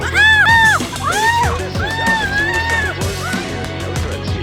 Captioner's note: victim yelling